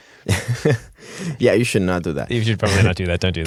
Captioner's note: laughing